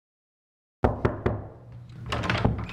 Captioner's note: knocking on door